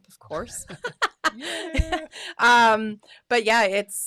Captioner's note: both laughing